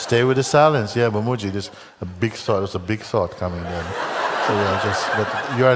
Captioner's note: Lachen